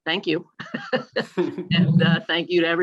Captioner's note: laughter